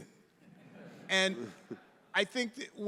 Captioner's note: audience laughing